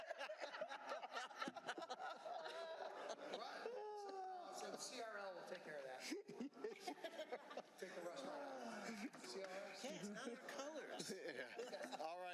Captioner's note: laughter